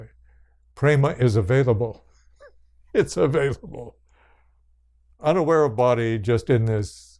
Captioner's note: laughs